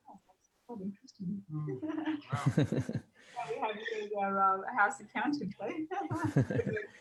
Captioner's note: laughing